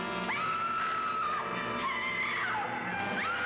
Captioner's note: Joan screams